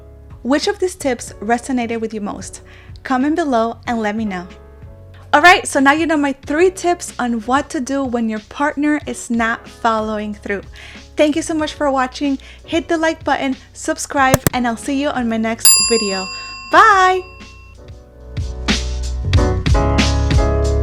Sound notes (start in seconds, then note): 15.6 bell ringing; 18.1 bright music